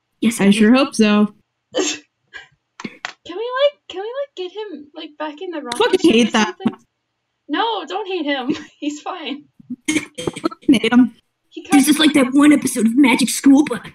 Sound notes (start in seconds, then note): 1.8 small laugh; 9.7 laugh